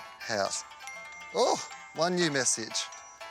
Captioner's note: ding!